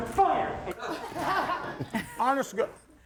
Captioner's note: audience laughing